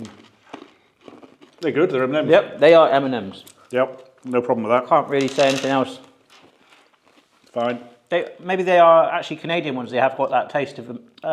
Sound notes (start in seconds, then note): 0.0 M&Ms crunch; 5.1 sweets clatter